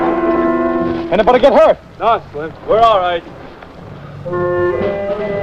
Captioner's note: bomb whistles; bomb explodes